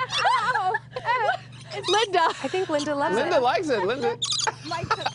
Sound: laughter

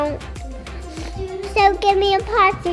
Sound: sniffling

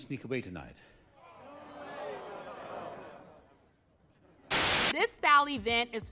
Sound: audience groans

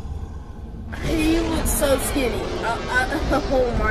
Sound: stutters

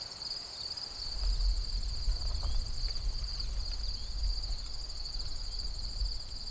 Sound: crickets chirping

